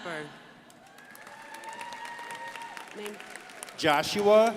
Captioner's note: crowd applauding